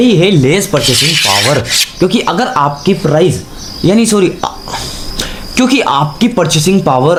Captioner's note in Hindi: नाक से की जाने वाली आवाज़